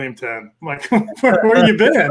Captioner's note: laughs; all chuckle